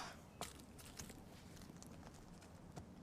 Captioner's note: sighs